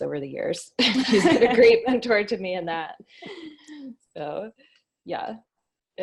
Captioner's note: laughs